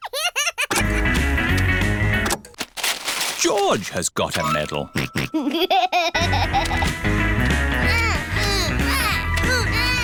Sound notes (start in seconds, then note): 4.8 oinks and giggles; 9.8 laughs